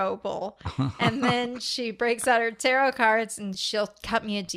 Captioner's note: laughs